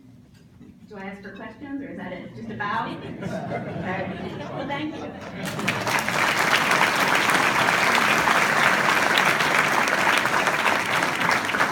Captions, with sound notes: Do I ask for questions or is that it? Just a bow? (laughing) All right, well thank you. (audience clapping)